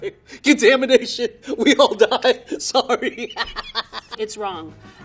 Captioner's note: laughing